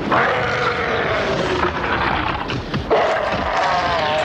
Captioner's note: growling; roaring